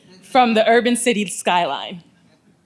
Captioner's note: none